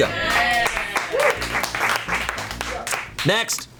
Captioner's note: colleagues applauding